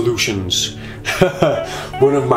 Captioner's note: laughs